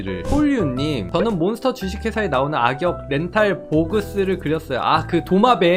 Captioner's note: voiceover